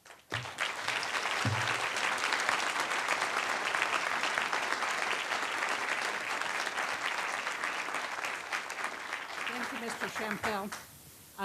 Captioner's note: applause